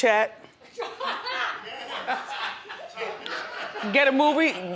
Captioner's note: audience laughs